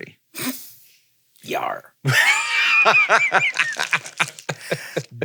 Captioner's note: laughs